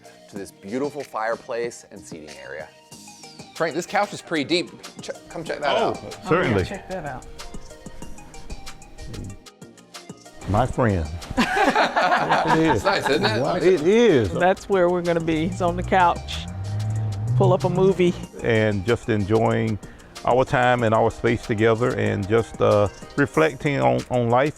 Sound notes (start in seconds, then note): 7.9 light music; 11.3 laughing